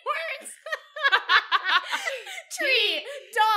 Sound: both laugh

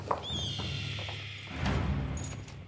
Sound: hawk's screech

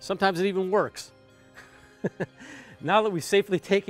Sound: chuckles

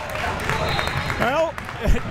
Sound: crowd members clapping; whistle tweeting

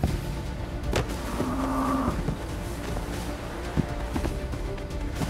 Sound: grunting; dramatic music playing

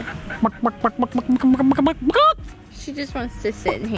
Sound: mimics chicken

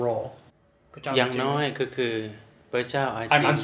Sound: speaks in foreign language

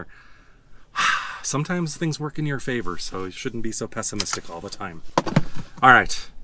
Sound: sighs

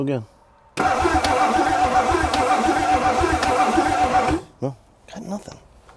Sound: vehicle engine humming

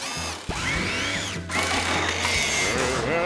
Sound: mechanical whirring

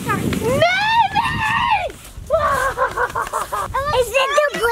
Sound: laughs maniacally

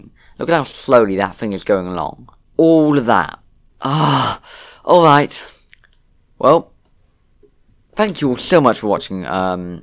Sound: "extreme" sigh

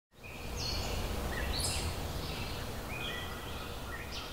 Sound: birds singing

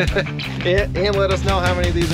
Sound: chuckling

